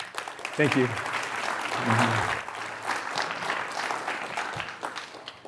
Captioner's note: applause